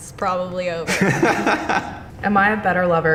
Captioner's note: interviewee laughs